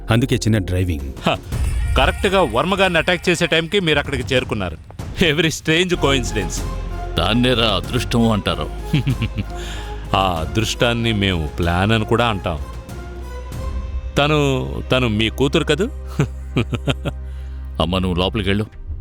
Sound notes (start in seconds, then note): 8.6 chuckles